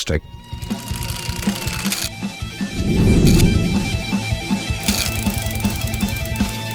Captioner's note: rock music; objects rattling